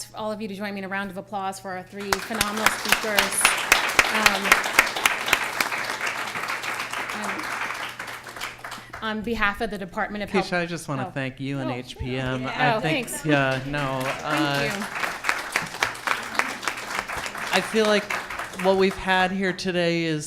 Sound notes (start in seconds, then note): 2.0 applause; 14.6 applause